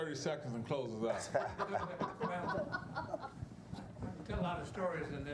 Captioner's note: laughing